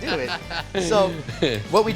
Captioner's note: laughs